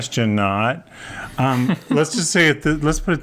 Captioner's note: laughs